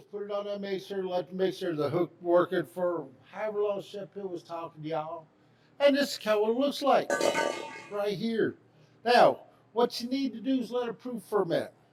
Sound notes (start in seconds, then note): 7.1 bowl clanks